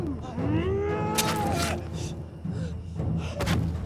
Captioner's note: sword squelches; body thuds